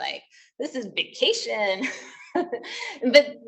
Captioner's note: laughing